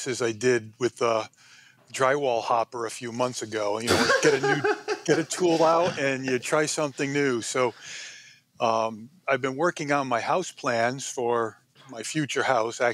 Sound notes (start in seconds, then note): 3.9 laughs